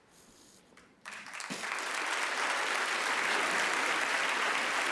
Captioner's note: audience applauding